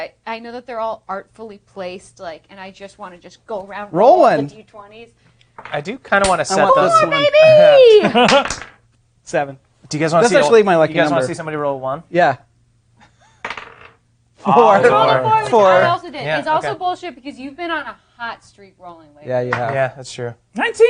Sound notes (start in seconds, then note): 5.4 dice clattering; 7.2 laughing; 8.4 dice clattering; 13.4 dice clattering; 14.6 all clamoring